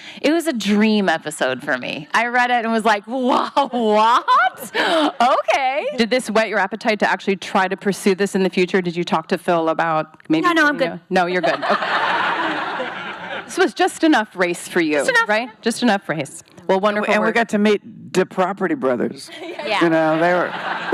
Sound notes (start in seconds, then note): 11.5 laughing